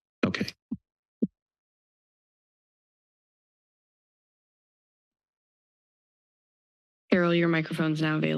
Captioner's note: silence